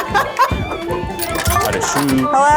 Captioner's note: quarter clinking